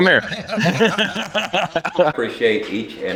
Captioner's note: laughing